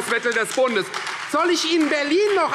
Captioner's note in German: Beifall Freie Demokraten